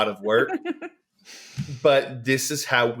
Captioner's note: laughs